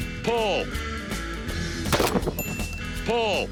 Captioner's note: gun shot; bell ding